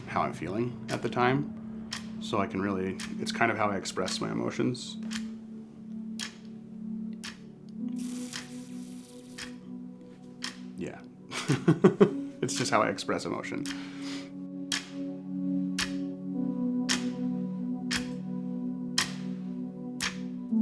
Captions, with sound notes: how I'm feeling at the time so I can really, it's kind of how I express my emotions. Yeah. (chuckling) It's just how I express emotion. (solemn music)